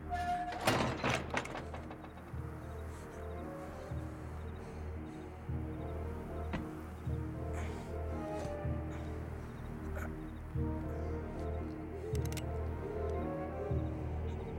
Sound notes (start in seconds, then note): 12.0 clicks